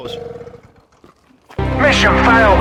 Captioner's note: engine dies